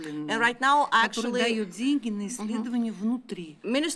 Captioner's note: speaking russian; speaking russian